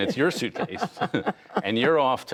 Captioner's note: laughter